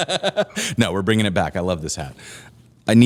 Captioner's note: laughter